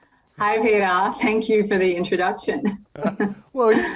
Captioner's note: giggles